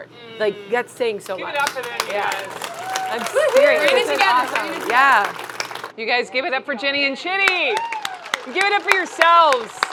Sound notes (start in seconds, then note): 1.2 everyone clapping; 7.8 audience applauding